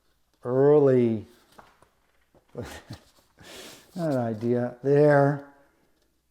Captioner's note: chuckles